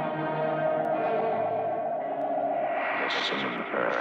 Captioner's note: magnetic humming